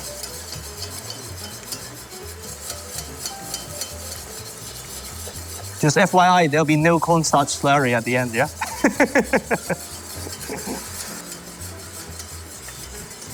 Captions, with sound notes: Just FYI, there'll be no cornstarch slurry at the end, yeah? [laughs]